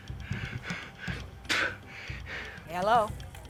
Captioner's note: Jarred spits